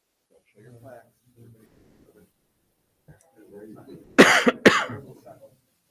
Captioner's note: indistinctive chattering